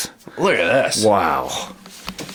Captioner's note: voiceover